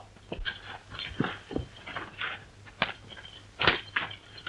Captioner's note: groaning